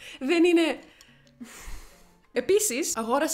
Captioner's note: exhales in aesthetics